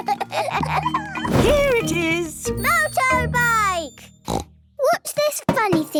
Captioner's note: snort